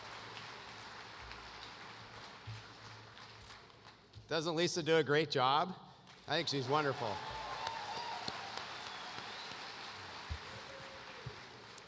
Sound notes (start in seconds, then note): 6.0 applause